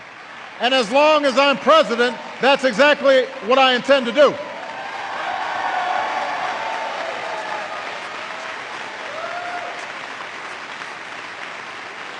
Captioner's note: applause